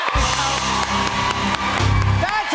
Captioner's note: cheers and applause